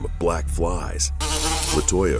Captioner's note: buzzing